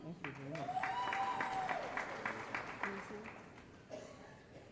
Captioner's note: applause & Cheering